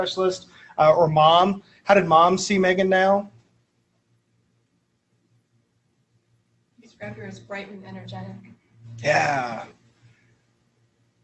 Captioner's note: audience